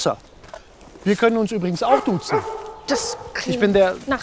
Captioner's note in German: Hundegebell